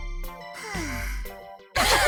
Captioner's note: sigh; laugh